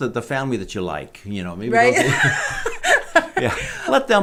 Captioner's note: laughing